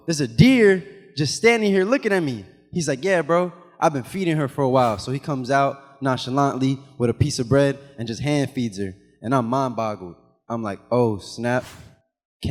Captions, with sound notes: there's a deer just standing here looking at me. He's like, yeah bro, I've been feeding her for a while. (animation whooshes) So, he comes out nonchalantly with a piece of bread and just hand-feeds her, and I'm mind boggled. I'm like, oh, snap. (animation whooshes)